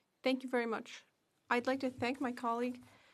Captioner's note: speaking French